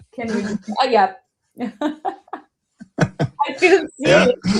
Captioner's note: laughter